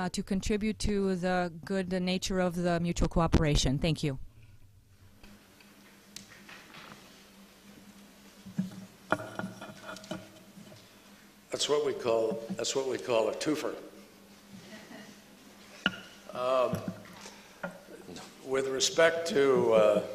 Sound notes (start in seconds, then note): 14.6 laughter